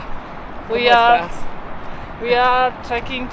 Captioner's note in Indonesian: Spanish